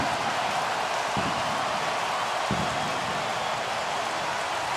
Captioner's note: crowd cheering